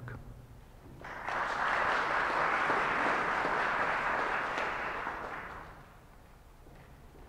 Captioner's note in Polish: oklaski